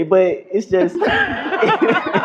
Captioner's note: laughter